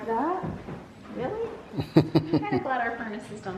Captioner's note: laughs